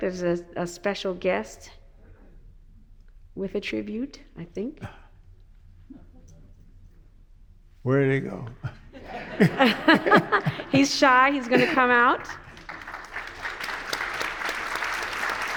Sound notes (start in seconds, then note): 8.8 everyone laughs; 12.5 audience applauds